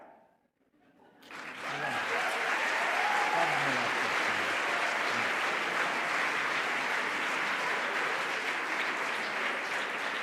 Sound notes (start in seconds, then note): 1.9 applause